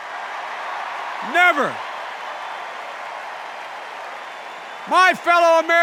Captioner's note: cheers and applause continues while biden speaks